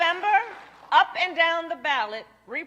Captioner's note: applause